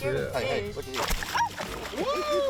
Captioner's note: screaming